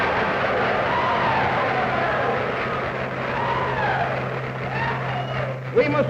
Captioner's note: cheers, applause